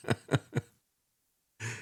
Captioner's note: laughs